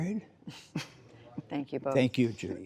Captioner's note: laughter